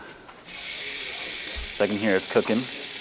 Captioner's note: bacon sizzling